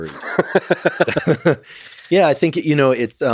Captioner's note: both laughing